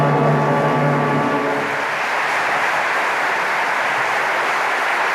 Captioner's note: audience applauding